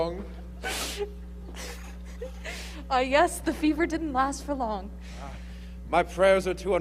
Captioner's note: giggling